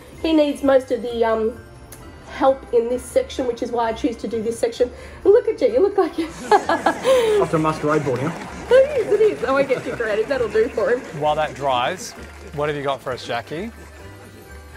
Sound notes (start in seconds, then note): 6.1 laughter